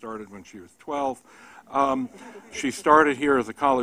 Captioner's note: laughter